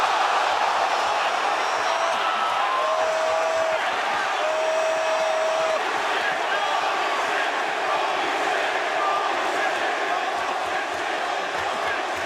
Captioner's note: crowd cheering